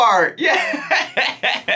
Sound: laughs

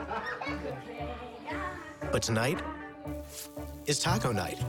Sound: laughter

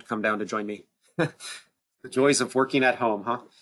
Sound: chuckles

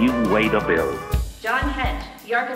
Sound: overhead announcement

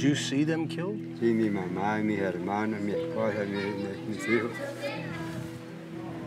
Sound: speaking Spanish

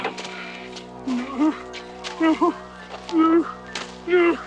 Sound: Philby whimpering

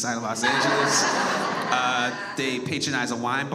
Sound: audience laughs

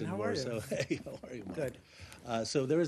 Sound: laughter

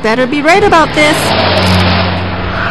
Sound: traffic

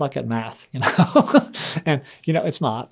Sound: laughs

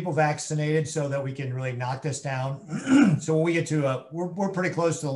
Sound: clears throat

